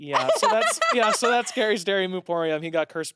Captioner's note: laughs